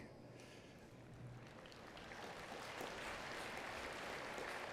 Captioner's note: attendees clapping